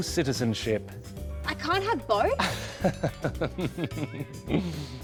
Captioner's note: chuckles